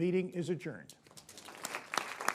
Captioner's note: applause